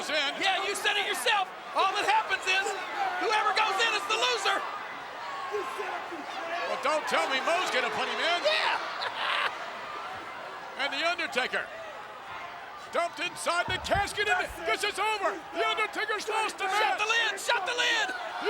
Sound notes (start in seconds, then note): 8.3 laugh